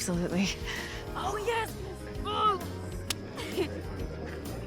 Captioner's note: high-five clap